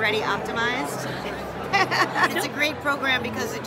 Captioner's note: chuckling